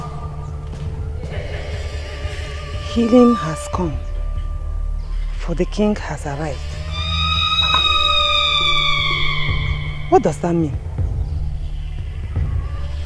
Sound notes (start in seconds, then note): 1.9 screaming